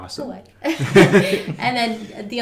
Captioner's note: laughter